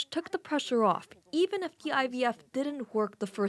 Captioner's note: speaking Alternate Language